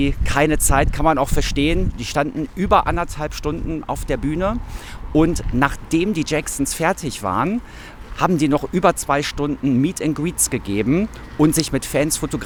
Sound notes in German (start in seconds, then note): none